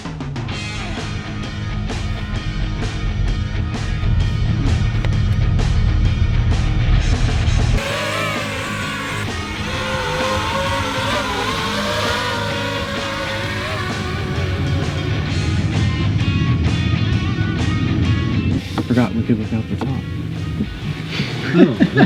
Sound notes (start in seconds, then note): 0.2 rock music; 7.9 drone buzzes; 21.1 laughs